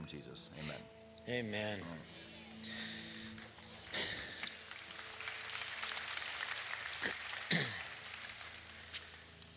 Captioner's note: applause